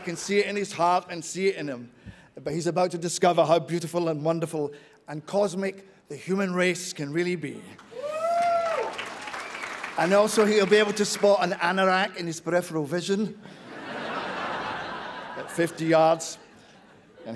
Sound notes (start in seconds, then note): 7.8 cheers; 13.4 laughter